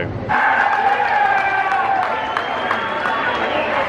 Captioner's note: crowd cheering